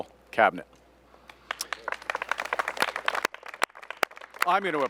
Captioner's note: applause